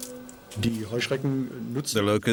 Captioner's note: speaking German